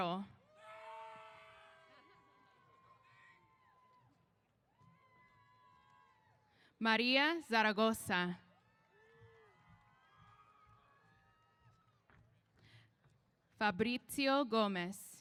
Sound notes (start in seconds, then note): 0.4 cheers; 8.6 cheers